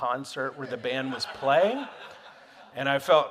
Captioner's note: audience laughing